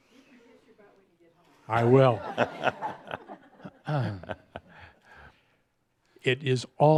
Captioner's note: Adamus chuckles